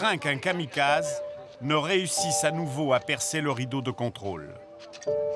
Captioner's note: French spoken audio